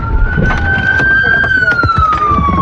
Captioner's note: sirens wail